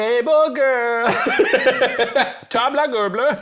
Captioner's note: laughing